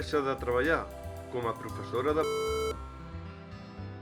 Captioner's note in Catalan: piiiip